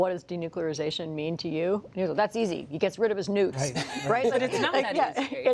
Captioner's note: laughter